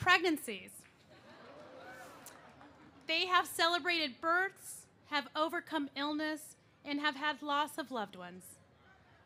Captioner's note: laughter